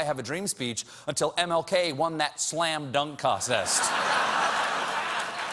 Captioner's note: laughter